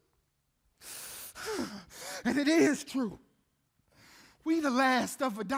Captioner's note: panting